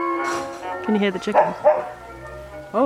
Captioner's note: dog barks